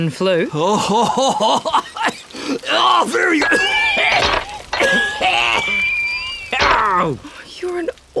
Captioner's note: coughing